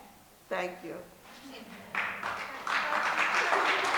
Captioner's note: applause